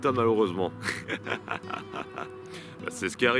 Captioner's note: laughs